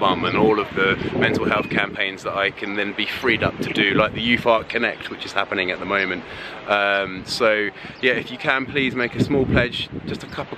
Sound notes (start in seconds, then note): none